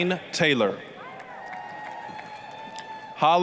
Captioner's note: applause, cheering